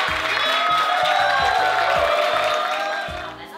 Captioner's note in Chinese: 歡呼聲